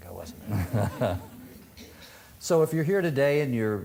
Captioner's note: audience laughing